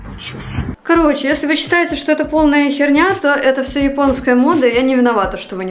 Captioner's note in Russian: хрю